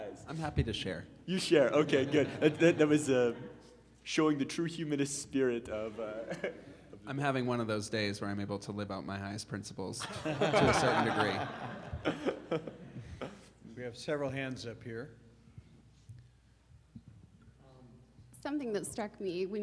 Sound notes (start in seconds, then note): 1.7 audience laughing; 10.0 audience laughing